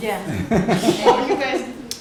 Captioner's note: laughter